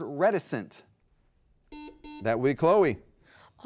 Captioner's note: buzzer beeps